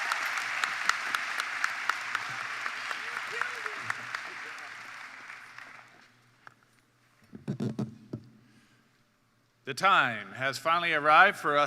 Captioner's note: cheers and Applause